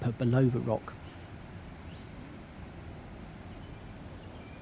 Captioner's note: sound of rushing water